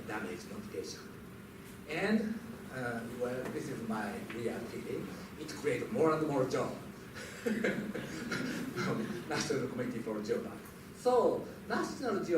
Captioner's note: laughs